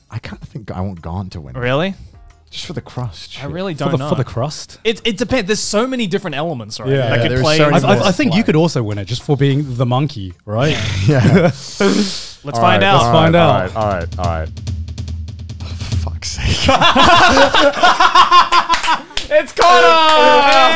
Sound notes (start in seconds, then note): 15.2 drums playing; 16.4 laughs